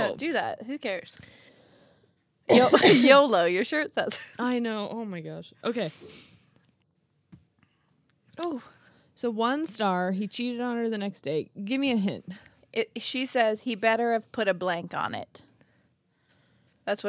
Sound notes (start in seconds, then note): 2.5 coughing